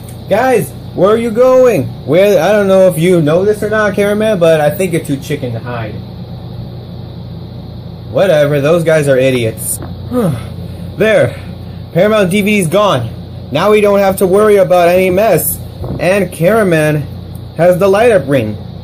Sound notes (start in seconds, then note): 10.0 sighs